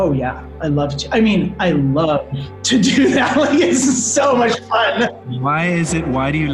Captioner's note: laughing